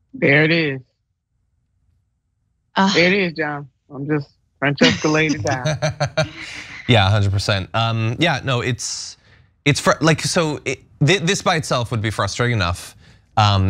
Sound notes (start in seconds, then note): 4.8 laugh